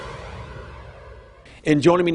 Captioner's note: air whooshing